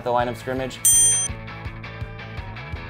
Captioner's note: electronic beep; upbeat music